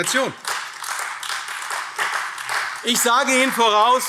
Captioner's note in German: Beifall AfD